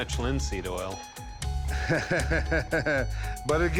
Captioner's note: laughs